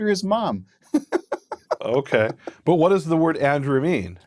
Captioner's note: laughing